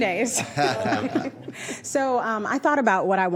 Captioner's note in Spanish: Risas